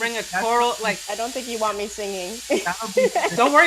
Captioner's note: laughing